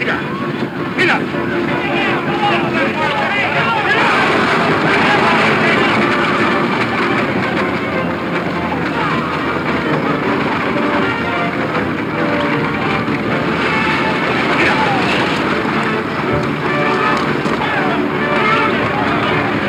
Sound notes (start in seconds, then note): 0.0 dramatic music; 1.5 dramatic music; 1.5 men yelling; 15.1 dramatic music; 15.1 wagon wheels rumbling